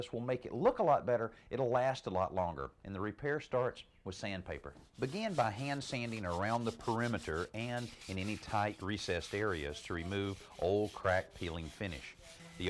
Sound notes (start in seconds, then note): 4.8 sandpaper scraping; 11.2 sander whirring